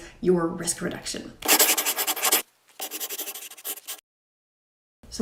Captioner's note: scribbling